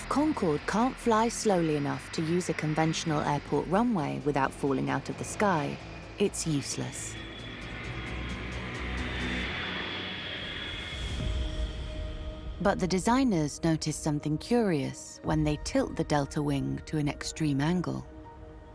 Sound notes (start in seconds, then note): 7.1 jet engine roars; 7.5 dramatic music continues